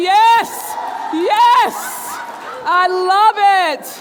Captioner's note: audience cheering and clapping